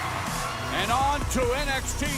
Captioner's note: bell ringing